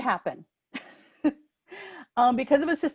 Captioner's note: laughing